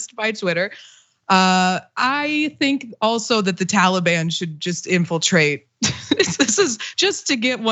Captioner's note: laugh